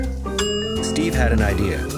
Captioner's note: bell dings